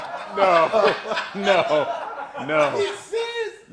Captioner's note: laughter